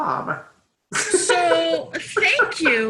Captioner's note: laughs